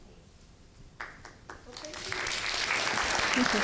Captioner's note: applause